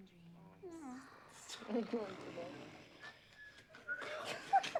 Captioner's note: snoring